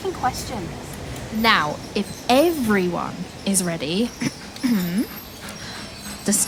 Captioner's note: cough